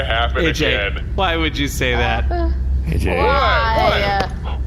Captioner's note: exasperated